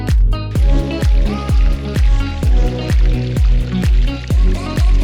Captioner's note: water running